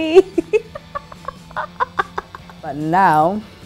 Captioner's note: laughing